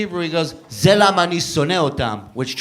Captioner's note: speaking Hebrew